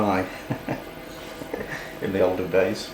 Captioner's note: chuckles